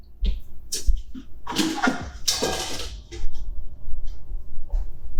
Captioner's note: clattering